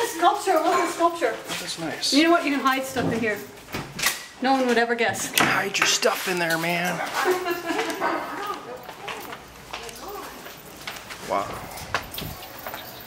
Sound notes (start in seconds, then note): 7.1 laughter